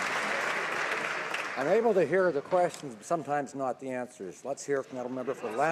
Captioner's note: some Applause